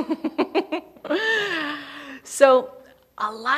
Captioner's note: laughing